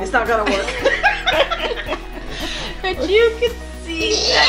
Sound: laughing

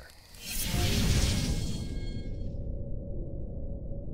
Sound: whooshing

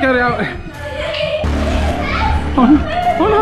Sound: children laughing

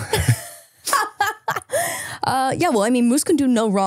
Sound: both laughing

